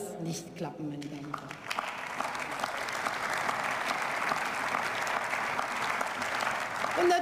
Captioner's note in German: Beifall